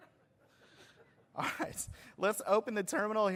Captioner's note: laughter